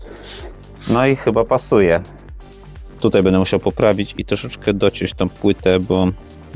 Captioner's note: snort